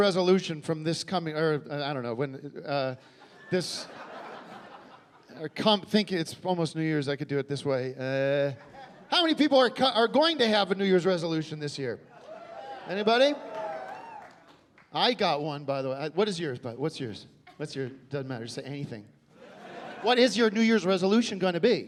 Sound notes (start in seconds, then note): 3.9 stammering; 12.2 scattered cheering